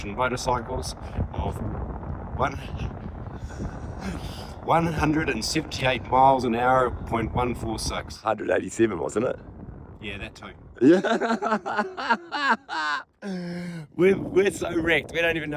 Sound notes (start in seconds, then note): 10.8 laughing